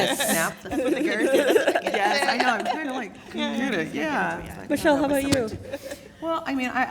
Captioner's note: laugh